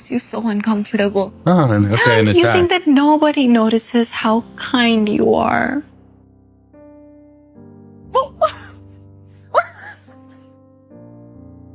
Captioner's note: squeal; kissing sound